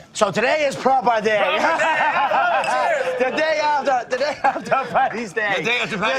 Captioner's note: laughter